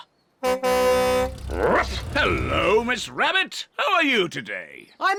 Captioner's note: honks horn